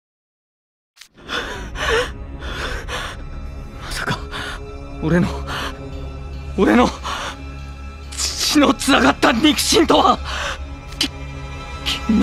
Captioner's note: pant, pant